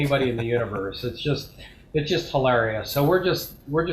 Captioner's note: laughs